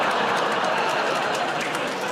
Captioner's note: audience groans